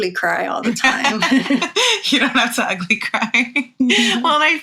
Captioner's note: laughs